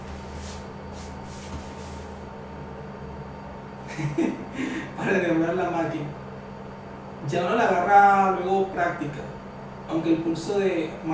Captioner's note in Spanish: risas